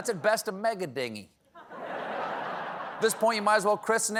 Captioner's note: laughter